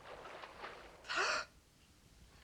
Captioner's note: inhales